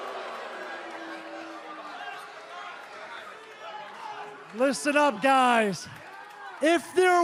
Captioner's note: cheers and boos